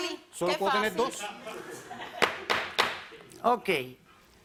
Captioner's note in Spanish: Risas